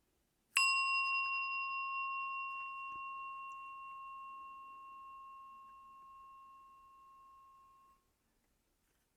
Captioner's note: bell